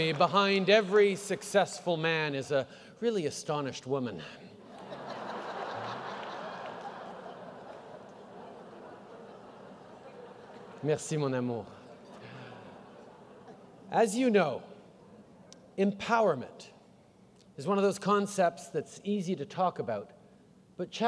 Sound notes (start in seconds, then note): 7.4 laughter